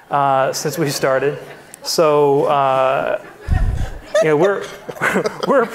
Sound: audience laughing

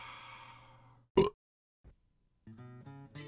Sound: burp

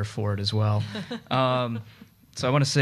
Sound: audience chuckling

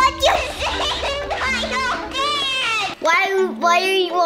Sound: laughing continues

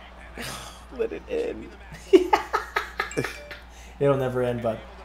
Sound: laugh

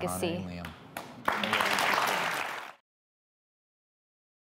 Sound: applause

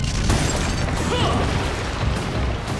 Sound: grunting

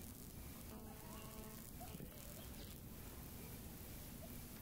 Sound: electronic crackling

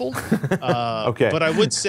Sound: laugh

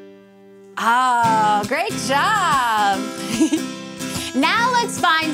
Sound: chuckles

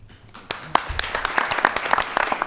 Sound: applause

